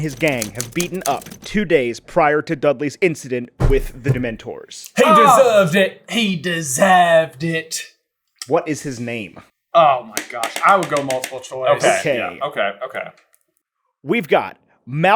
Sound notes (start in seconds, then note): 4.8 accented